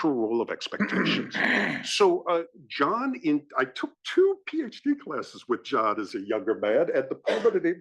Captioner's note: cough